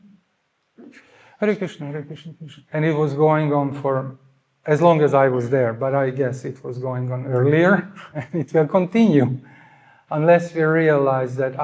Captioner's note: nevetés